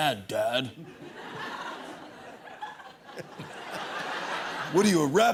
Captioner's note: laughter